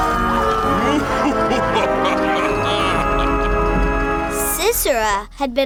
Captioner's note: laughing